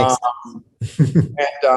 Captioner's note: laughs